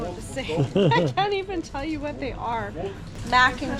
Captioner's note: laughs